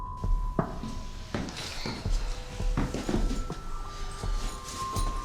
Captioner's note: footsteps thudding